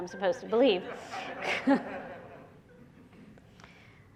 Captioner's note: laughter